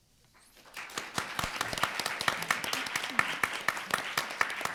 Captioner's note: room applauding